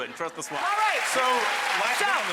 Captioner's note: audience applauding